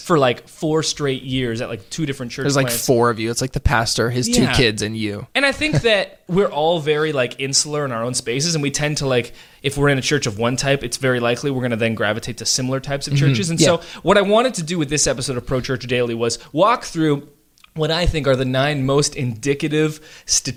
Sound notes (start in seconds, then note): 4.9 laughs